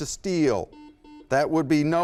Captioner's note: buzzer